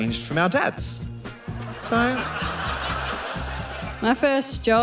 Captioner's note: laughter